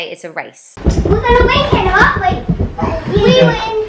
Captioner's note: kids chattering